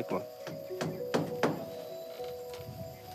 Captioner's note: hammer taps